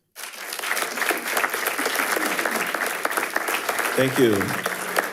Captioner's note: attendees applauding